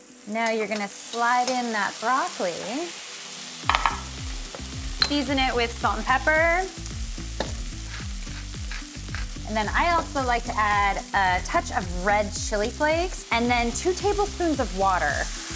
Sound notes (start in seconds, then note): 7.1 food sizzling